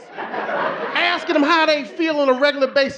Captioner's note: audience laughing